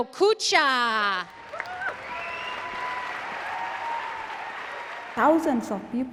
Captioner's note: audience applauds and cheers